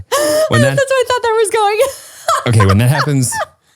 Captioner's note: laughs